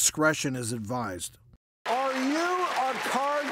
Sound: audience clapping

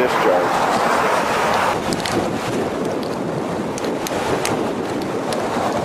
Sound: water rushing loudly

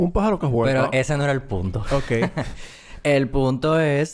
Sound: laughs

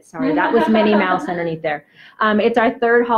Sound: laughs; normal voice

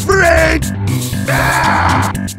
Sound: Peppino growls

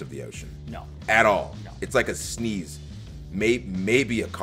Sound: none

